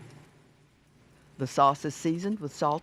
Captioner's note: voiceover